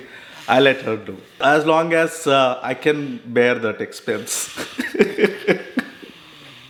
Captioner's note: laughs